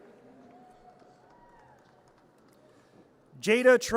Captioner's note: audience cheers